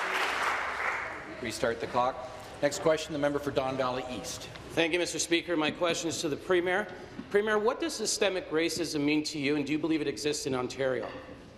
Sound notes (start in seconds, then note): 0.0 applause